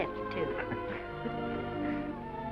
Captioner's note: both chuckling